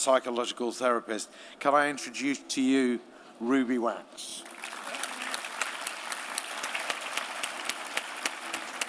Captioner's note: applause